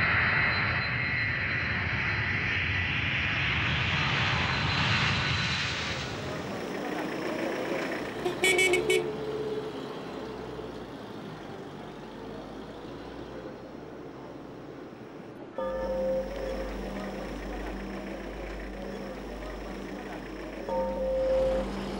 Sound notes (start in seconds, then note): 6.8 horn; 7.2 engine